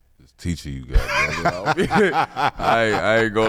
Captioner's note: laughing